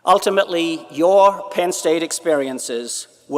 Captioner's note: none